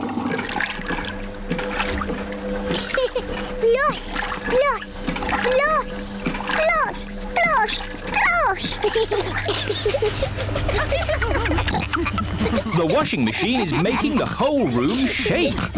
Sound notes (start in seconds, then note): 0.2 machine rumbles; 2.7 giggles; 8.4 giggling; 11.2 rumbling